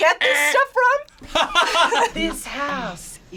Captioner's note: laughs